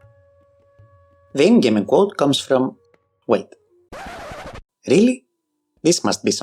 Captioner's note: record-scratch